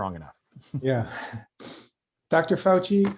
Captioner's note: laughter